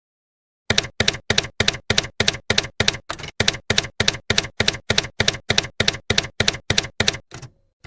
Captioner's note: typewriter keys clacking